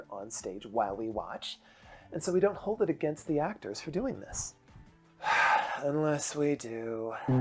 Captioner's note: sigh